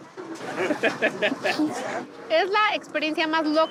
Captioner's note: laughs